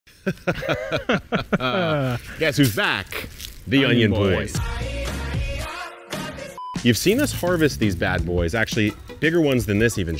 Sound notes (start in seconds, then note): 0.2 both laughing; 3.8 upbeat music